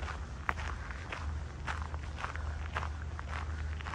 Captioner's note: walking on gravel